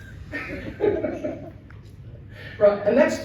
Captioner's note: audience laughs